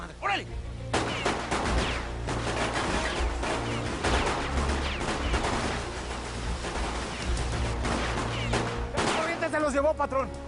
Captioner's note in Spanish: Disparos